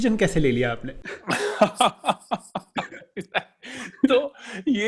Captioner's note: laughing